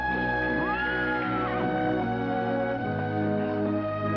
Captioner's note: horse whinnying